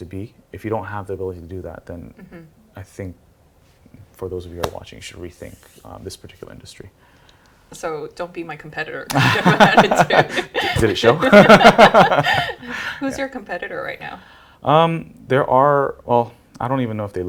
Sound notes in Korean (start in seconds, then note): 12.3 웃음